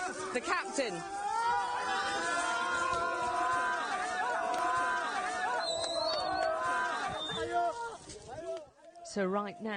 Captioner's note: refugees cheer